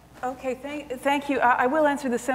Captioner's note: none